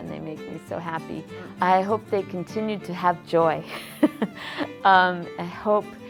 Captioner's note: laughs